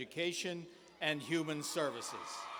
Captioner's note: cheers and applause